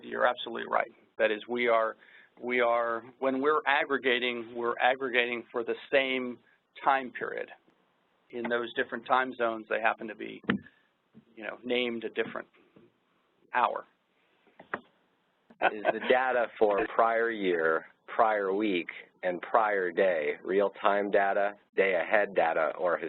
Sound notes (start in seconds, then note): 10.4 microphone pops; 15.5 laughs